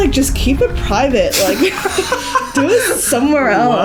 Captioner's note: all laugh